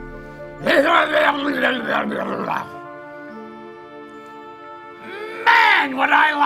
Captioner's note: motorboating sound